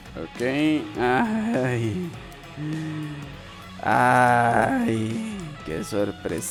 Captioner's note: ꜱᴜꜰꜰᴇʀɪɴɢ ɴᴏɪꜱᴇꜱ